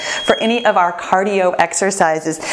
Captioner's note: bell chimes